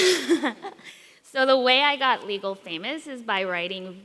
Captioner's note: chuckles